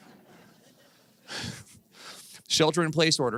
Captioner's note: laughing